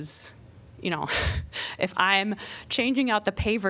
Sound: laughter

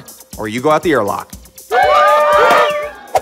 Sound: cheering

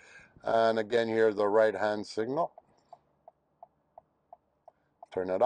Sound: turn signal clicks

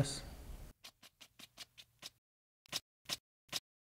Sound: brush strokes

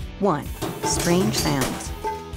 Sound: clattering

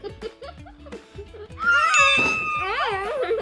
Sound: laughing

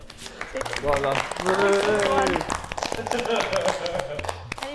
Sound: Sidemen applauding

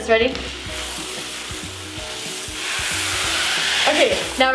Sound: beads hitting a surface

